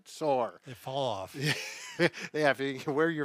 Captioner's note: laughs